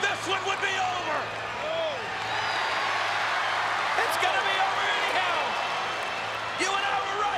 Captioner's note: applause